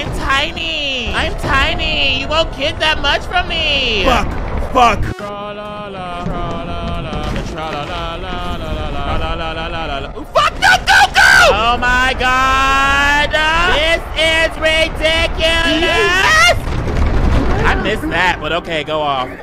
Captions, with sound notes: I'm tiny, I'm tiny. You won't get that much from me. Fuck! Fuck! (video buzzes) Tra la, la, la, tra la, la, la. La, la, la, la, la, la. Fuck, no, go, go! Oh my god! This is ridiculous. (character screams) I missed that, but okay, go off.